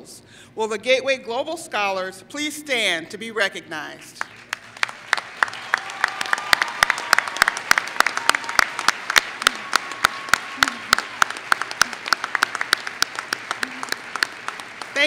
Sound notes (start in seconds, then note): 4.1 applause